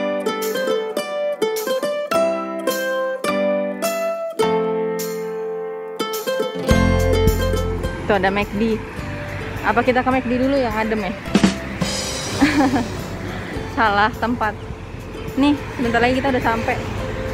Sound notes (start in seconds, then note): 12.3 laugh